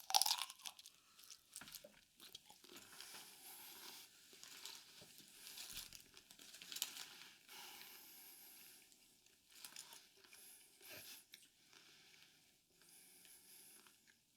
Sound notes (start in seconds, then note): 2.1 loud crunchy juicy chewing